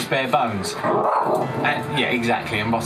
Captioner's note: dog growls